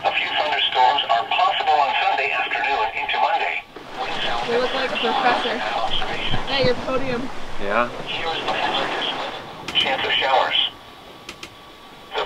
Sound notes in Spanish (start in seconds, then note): 0.1 radio; 7.8 charla de radio